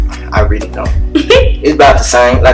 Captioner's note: laughs